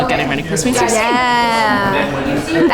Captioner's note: laughing